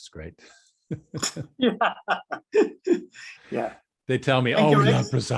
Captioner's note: both laughing